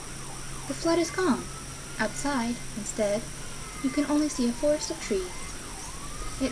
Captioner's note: loud songs of Crickets and Cicadas, sounds of gentle bustling of leaves